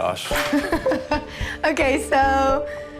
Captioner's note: laughs